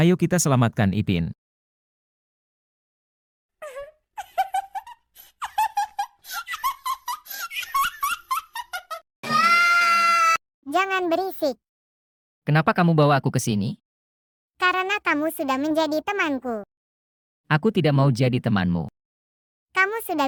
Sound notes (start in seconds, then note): 6.3 laughs